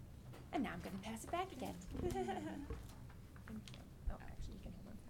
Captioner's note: laughing